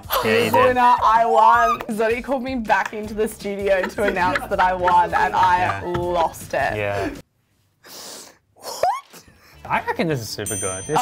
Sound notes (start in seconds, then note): 6.7 laughs